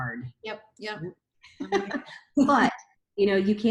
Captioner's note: laughs